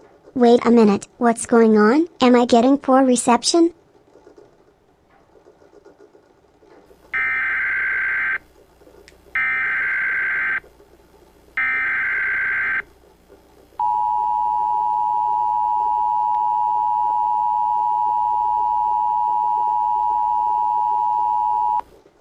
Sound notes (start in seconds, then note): 7.0 EAS tones